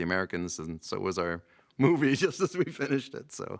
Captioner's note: laughing